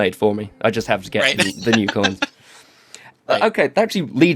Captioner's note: laughs